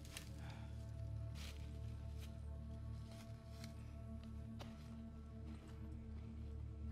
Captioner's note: ominous music; leaves rustling